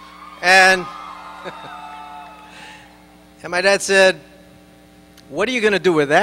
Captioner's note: laughing